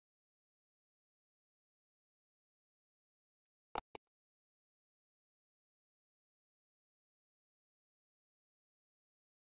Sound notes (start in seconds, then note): 3.7 pointer clicking